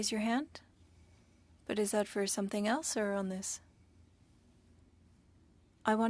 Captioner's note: speaking French